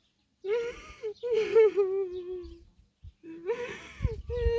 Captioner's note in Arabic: ضحك